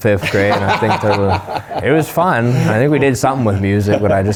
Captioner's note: laughs